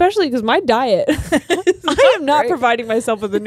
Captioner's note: laughs